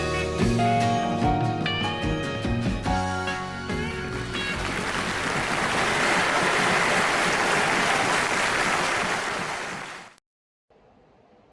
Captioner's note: cheers and applause